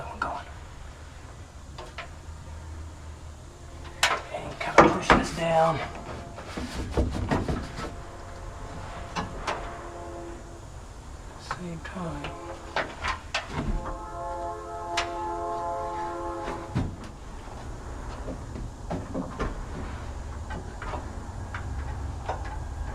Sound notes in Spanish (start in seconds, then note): 3.8 golpes